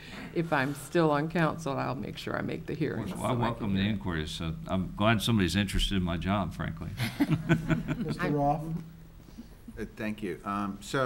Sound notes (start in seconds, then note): 7.1 laughs